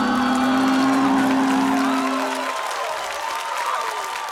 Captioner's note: gives distorted, slo-mo roar; exclamations, applause; cheering